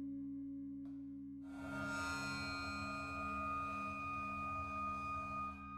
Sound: high-pitched ringing noise

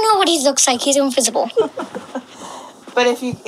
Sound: laughs

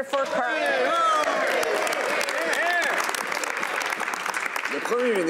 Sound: some Applause; speaking French; some Applause

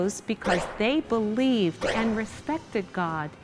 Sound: bang, bang

